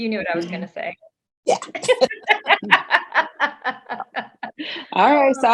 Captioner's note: all laughing